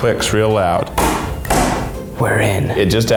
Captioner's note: lid clicking